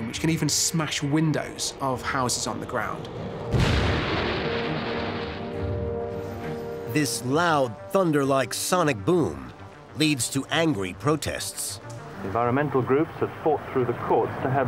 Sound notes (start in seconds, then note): 3.3 massive booming sound; 12.4 radio voice